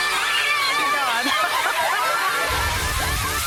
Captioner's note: upbeat music; women cheering; laughs; upbeat music